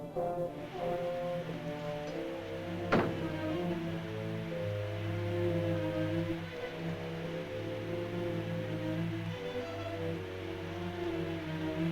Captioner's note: soft suspenseful music; air hissing